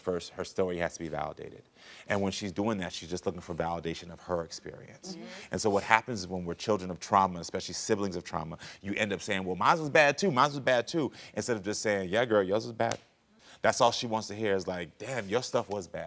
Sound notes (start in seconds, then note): none